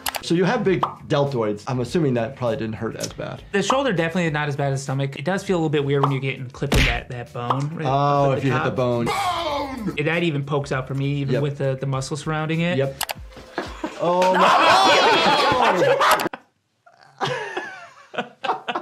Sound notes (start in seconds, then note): 15.9 both laugh